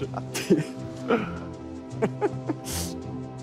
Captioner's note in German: Lachen, nachdenkliche Klänge